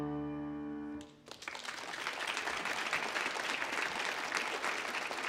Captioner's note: audience applaudS